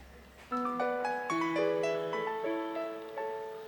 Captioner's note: mobile ringtone